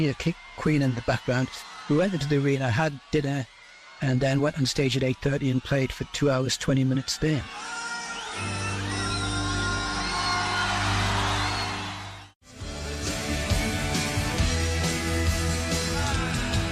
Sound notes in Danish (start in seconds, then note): 7.3 Bifald